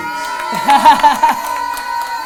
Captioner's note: cheers